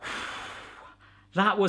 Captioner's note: exhaling